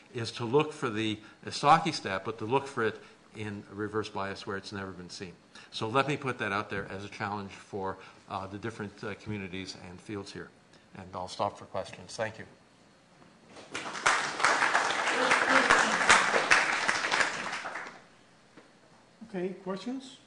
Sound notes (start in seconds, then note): 13.6 applause